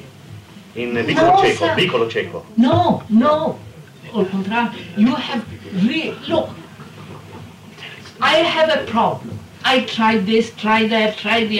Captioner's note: Italian; Italian